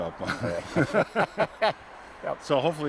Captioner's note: laughter